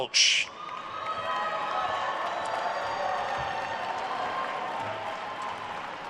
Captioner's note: attendees cheering and applauding